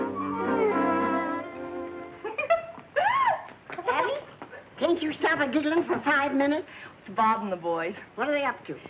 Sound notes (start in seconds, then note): 2.2 laughter